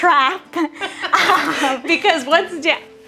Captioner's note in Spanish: ambas riendo